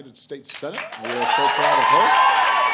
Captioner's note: applause